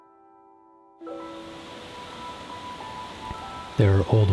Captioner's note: water splashing